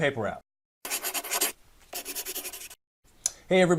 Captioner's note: pencil scratches paper